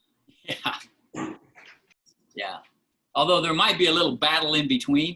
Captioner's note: laughter